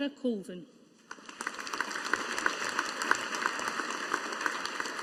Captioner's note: audience applauding